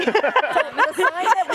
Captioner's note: laughter